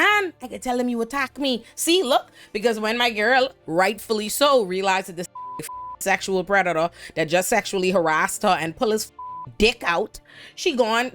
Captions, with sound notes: And I could tell them you attack me. See, look, because when my girl rightfully so realized that this (beep) sexual predator that just sexually harassed her and pull his (beep) dick out, she gone.